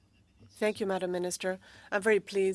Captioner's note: speaking French